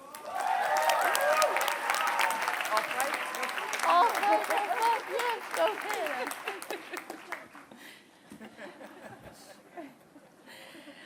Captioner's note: applause